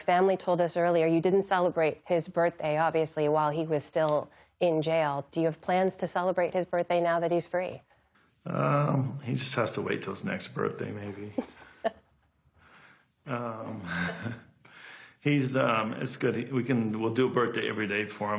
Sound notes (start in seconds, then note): 11.3 laughter